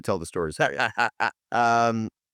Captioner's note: laughs